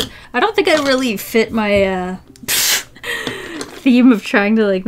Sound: pfft, deep inhale

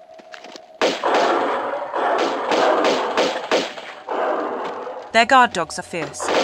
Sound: roars

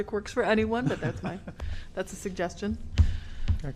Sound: laughter

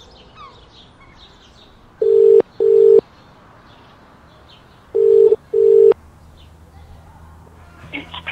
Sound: phone ringing

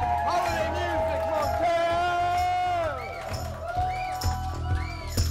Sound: cheers and applause

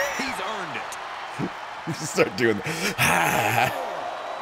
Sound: laugh

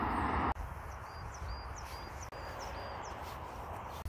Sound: birds chirping

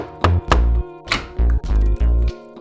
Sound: knocking; door opens

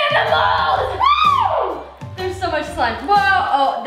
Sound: excited screams

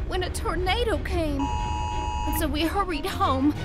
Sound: emergency alert

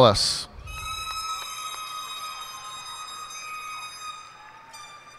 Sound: cheers and applause

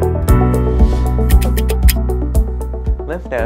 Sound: typewriter clicking; whooshing; typewriter clicking

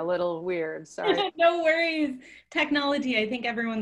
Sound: laughs

